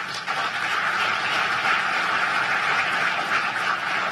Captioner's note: applause